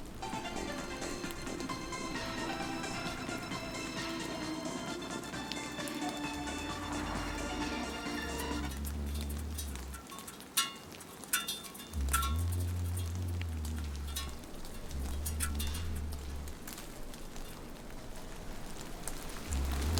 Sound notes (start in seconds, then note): 8.8 rain falling on metal; 11.9 humming